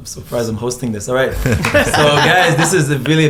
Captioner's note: laughs